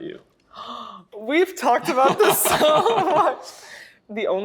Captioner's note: gasps